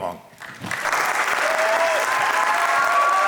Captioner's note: applause